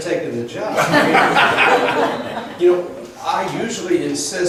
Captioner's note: laughs